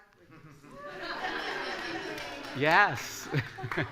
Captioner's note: laughter and applause